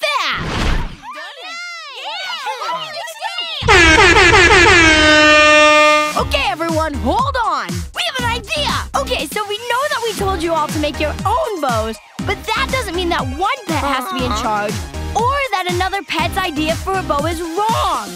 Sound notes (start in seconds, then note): 0.2 all bickering; 3.6 air horn blasting